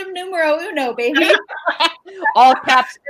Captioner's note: all laugh